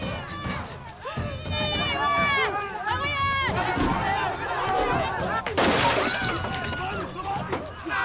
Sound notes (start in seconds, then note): 5.4 glass shattering